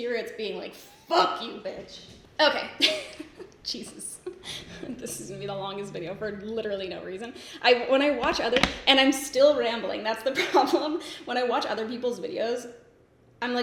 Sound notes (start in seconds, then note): 2.6 laughs